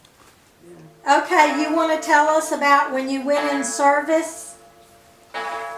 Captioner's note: silence; clock chiming; clock chimes